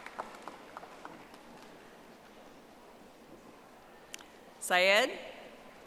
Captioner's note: audience applauding